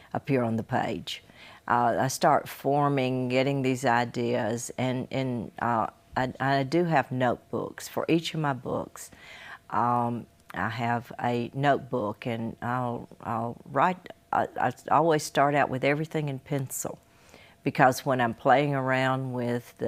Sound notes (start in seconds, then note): none